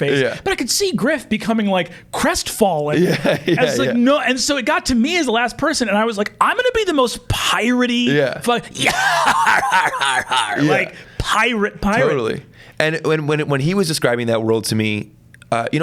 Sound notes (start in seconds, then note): 2.9 laughs; 8.8 imitates pirate laugh